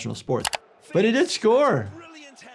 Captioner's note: keyboard clicking